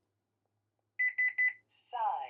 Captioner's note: beeping